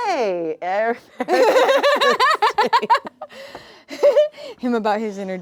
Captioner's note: laughing